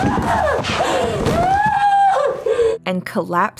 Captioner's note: Dani screams